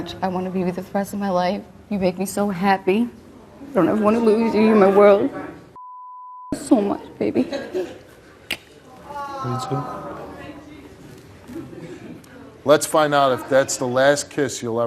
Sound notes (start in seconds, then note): 5.7 beep